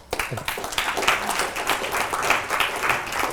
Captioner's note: applause